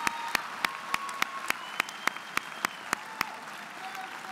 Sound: applause

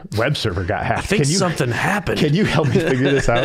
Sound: laughing

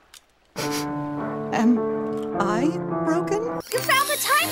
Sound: pitched down; pitched down

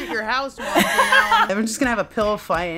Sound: laughing

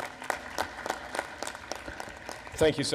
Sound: applause

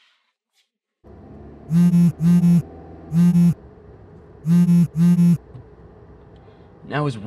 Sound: phone vibrating

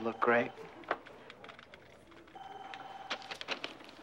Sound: phone ringing

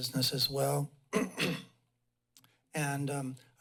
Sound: clears throat

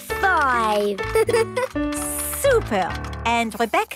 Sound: giggles

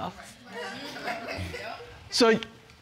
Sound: audience murmuring

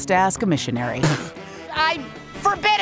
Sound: spits

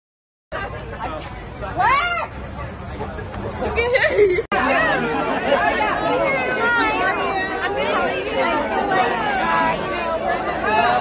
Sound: background talking

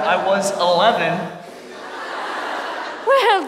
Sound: audience laughs

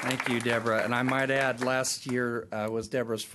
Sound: applause

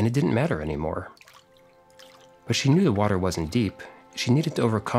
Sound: water sound

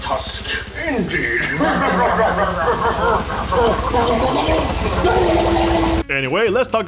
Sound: both laugh while gurgling water

